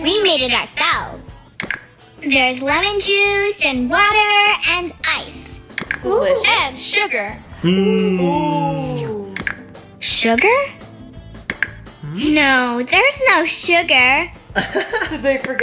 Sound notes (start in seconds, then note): 1.6 clicking noise; 14.5 laughing